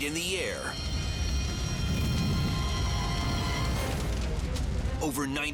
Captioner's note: fire roaring